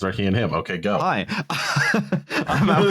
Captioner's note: laughs